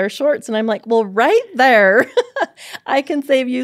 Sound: laughs

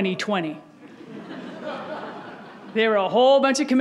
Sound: audience laughs

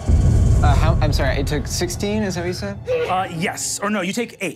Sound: murmurs

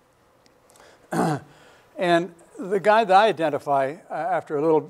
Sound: clears throat

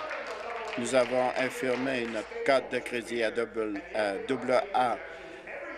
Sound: applause

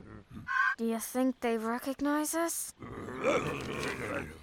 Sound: muttering

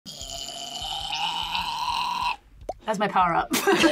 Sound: grunts; both laugh

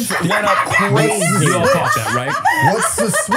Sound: laughing

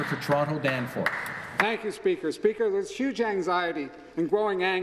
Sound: applause

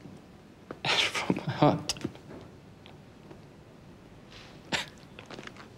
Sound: crying

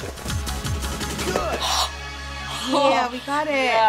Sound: sharp gasp

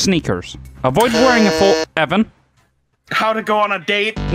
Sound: buzzes

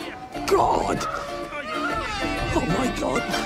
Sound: Ed and Stede moaning in background

